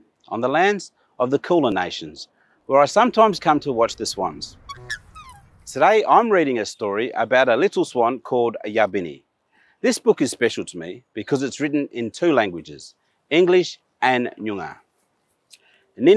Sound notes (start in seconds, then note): 4.6 swans honking